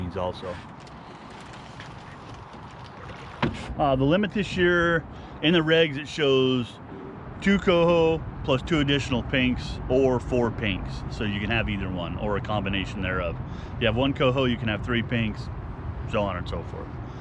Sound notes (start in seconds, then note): 1.0 water lapping